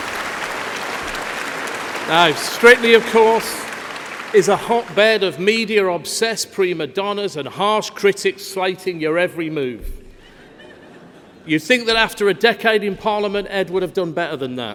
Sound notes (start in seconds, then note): 1.7 laughter